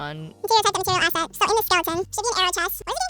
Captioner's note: sped up chatter